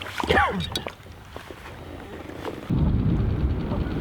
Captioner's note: man coughing; boat engine whirring